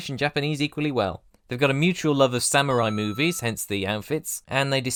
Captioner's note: ding!